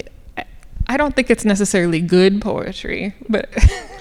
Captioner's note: laughing